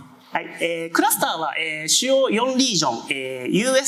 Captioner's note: speaking japanese